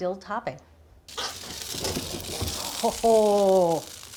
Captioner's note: salmon sizzling